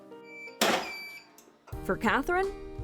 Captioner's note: heat press beeps and clicks